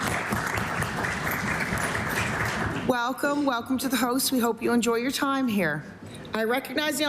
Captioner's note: applause